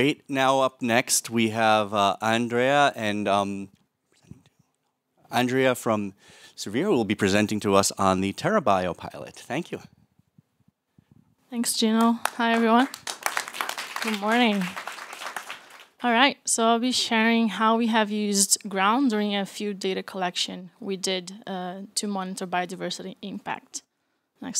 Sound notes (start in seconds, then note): 12.0 applause